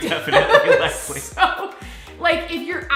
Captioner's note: laughter